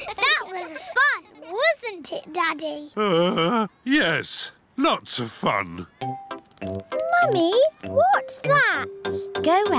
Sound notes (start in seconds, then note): 3.0 groans